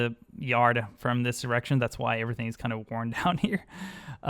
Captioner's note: giggles